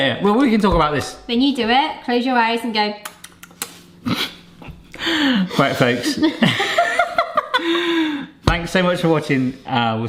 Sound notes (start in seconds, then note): 3.8 chews; 5.0 laughs; 6.6 both laughing